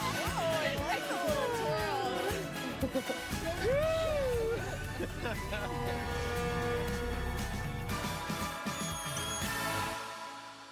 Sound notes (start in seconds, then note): 1.9 chattering; 4.3 whooping; 7.8 horn blowing